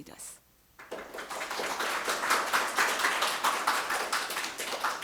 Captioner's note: audience applauds